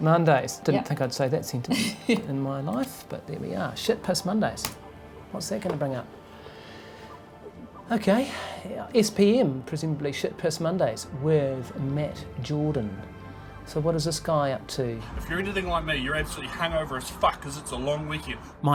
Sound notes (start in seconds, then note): 4.7 keyboard clicks